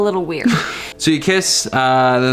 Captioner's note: laughs